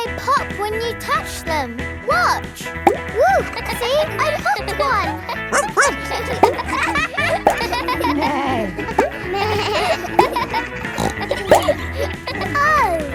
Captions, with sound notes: But they pop when you touch them! Watch! -Whoo! -(KIDS LAUGHING) See, I popped one. (BARKS) -(NEIGHS) -(BLEATS) (SNORTS)